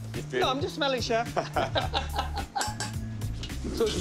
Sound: laughter

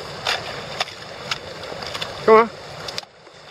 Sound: smashing ice

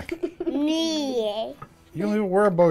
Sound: laughter

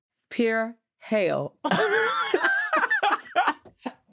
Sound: all laughing

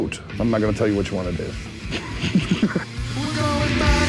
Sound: chuckles

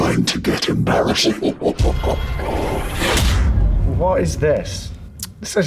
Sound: evil laugh

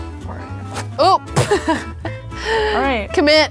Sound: tearing; laughing

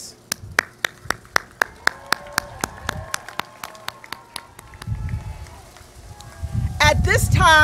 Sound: applause

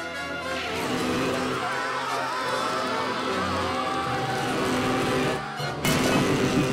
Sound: screaming

